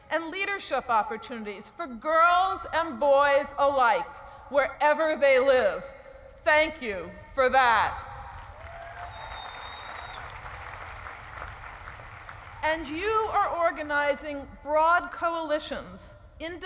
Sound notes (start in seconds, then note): 8.2 applause